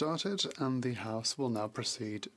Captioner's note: speaking French